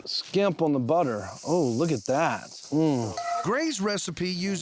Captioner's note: sizzling sounds